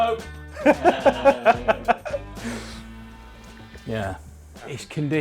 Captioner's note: everyone laugh